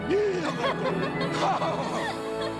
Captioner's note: belle laughing